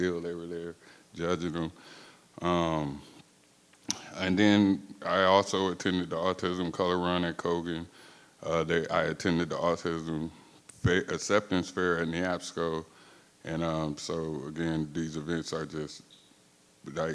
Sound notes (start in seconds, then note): none